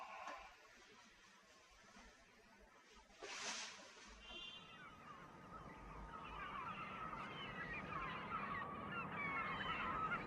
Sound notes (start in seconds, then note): 4.0 sounds of birds and cars